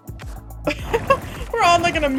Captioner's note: laughs